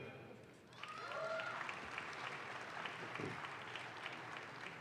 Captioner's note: audience claps